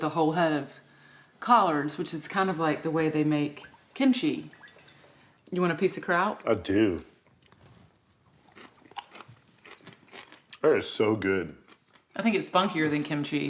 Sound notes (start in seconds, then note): 7.3 crunching